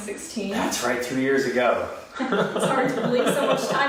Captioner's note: laughs